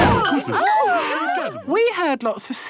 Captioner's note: all gasping